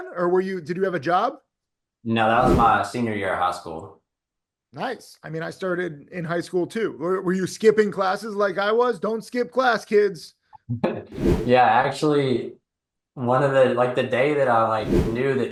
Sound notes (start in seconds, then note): 10.7 laughing